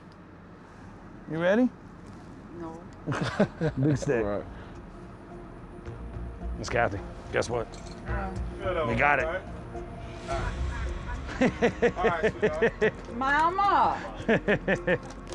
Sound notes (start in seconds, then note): 3.0 chuckles; 10.2 laughs